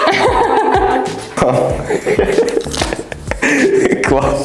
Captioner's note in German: Lachen